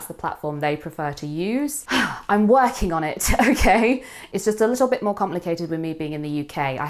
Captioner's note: sighs